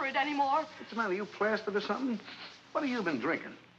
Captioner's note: sniffing